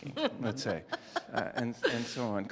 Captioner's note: laugh